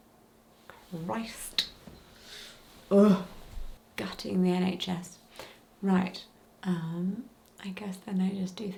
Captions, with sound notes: Christ. (groaning) Gutting the NHS, right. I guess then I'll just do